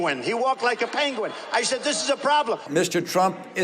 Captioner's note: laughing